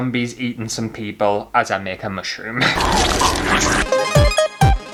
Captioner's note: zombie Sounds; retro Music